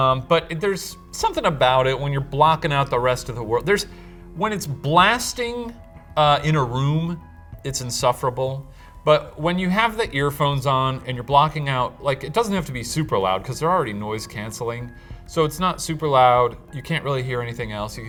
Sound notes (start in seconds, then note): none